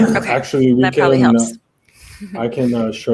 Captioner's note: chuckles